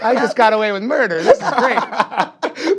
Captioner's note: all laughing